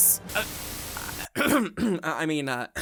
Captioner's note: desperately clears throat